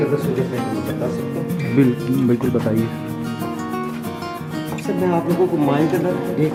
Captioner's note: people Chattering